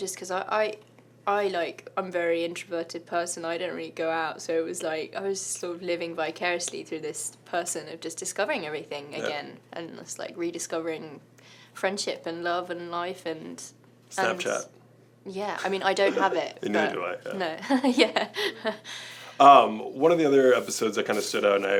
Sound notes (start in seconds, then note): 17.6 Esme laughs